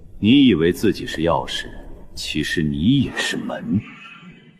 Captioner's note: cough